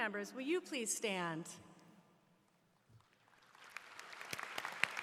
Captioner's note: applause